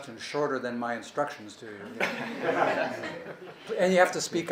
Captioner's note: laughing